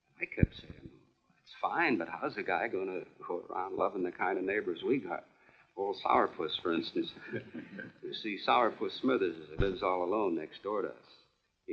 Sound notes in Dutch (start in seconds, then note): 7.4 lachend